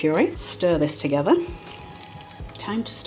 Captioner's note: slurpy whisking